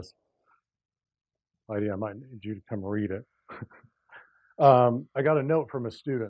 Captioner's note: laugh